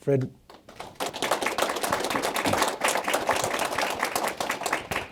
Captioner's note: audience applauding